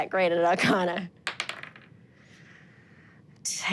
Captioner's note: dice rolling